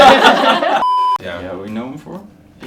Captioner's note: all laughing; beep